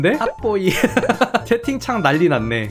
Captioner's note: laughing